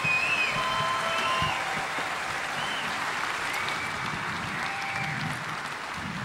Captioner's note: audience applauding; audience whistling; audience cheering